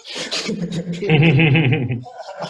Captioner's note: chuckles